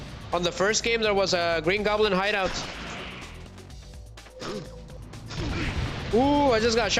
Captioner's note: snorts